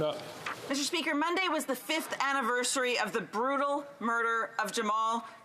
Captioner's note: speaking French